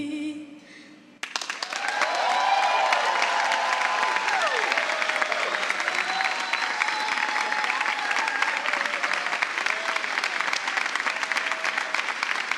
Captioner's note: applause